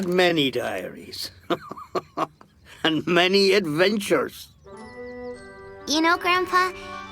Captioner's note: chuckling